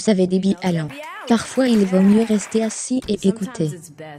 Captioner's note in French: applaudissements du public